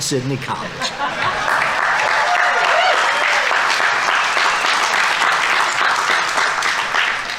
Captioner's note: audience applauding; audience members cheering